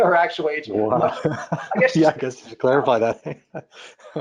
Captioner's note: laughs